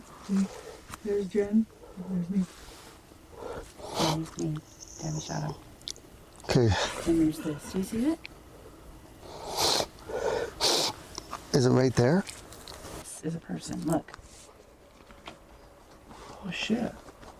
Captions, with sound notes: There's Jen, and there's me. [sniffles] - Come with me in the shadow. - Okay. - And there's this. Do you see it? [sniffles] - Is it right there? - There's a person, look. - Oh, shit.